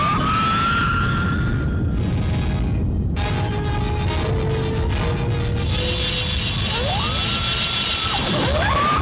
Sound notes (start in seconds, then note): 0.2 wasp shrieking; 3.2 volcano rumbling; 3.2 wasps shrieking